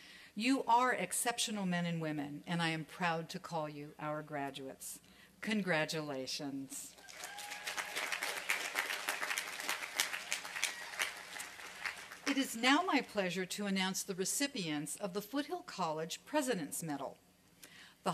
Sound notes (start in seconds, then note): 7.0 applause and cheering